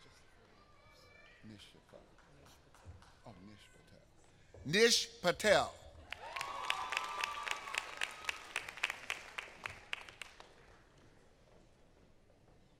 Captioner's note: applause